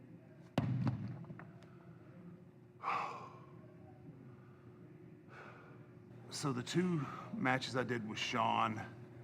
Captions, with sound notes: (weights thump) (Undertaker exhales) So the two matches I did with Shawn,